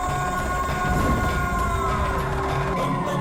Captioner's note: howling